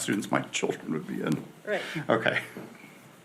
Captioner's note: laughs